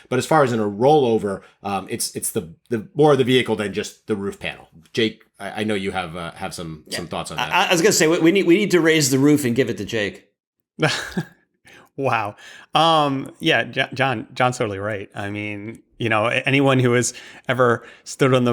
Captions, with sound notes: But as far as in a rollover, it's more of the vehicle than just the roof panel. Jake, I know you have some thoughts on that. I was going to say, we need to raise the roof and give it to Jake. [LAUGHTER] Wow. Yeah. Jon's totally right. I mean, anyone who has ever stood